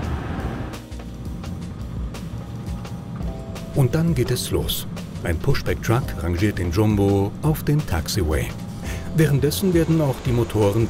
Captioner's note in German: Fahrgeräusche